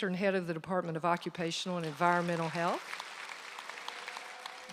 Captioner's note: applause